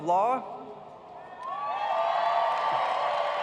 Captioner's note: cheers and applause